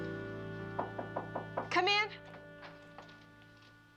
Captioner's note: Knocking